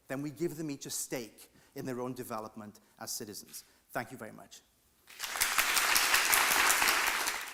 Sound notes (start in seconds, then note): 5.1 audience applauding